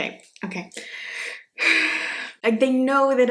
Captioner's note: sighs